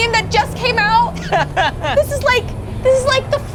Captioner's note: laughs